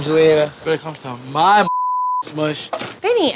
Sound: beep

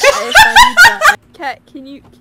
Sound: cat cackles

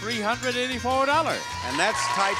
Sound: audience applauds

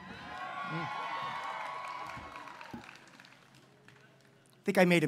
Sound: applause

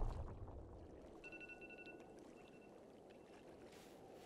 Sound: alarm beeps

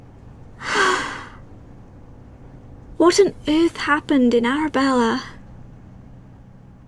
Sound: sighs

